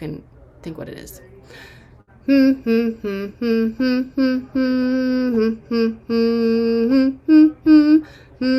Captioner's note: humming